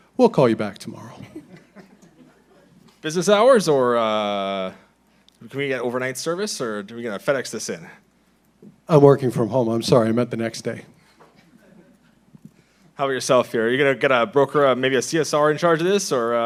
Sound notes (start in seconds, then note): 1.2 laughing